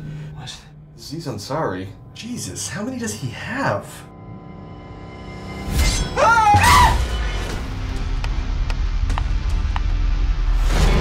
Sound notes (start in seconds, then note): 6.1 scream